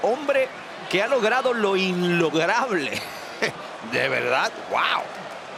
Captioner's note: laugh